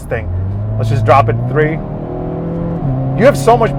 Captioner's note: car engine roaring